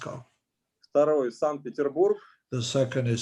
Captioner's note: speaking Russian language